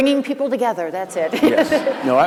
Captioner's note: laughter